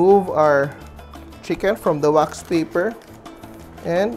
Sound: rustle

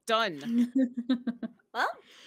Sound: laughs

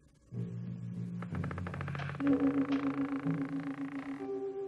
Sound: door creaks

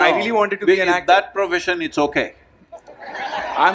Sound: laughs; laughter

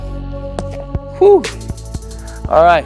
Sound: breathes deeply

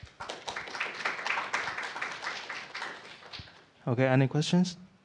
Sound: applause

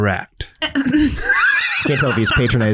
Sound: laughs

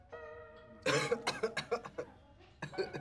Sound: coughing; laughing

